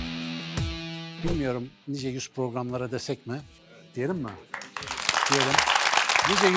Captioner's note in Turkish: alkış